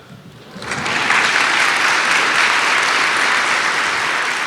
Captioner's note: audience applauding